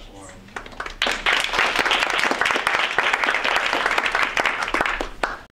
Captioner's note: audience Clapping